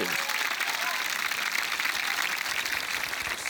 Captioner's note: cheering, applause